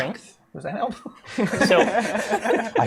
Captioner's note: laughter